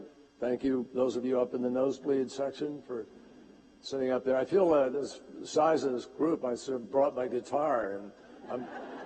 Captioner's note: laughter